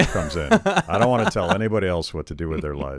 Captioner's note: laughing